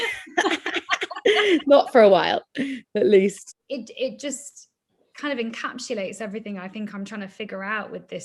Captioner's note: laughs